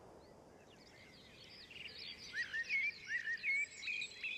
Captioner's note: springtime birdsong